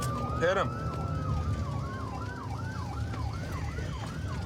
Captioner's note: sirens wailing